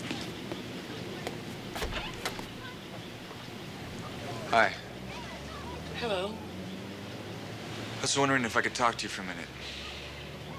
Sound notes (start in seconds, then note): 1.7 door opens